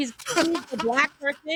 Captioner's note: laughing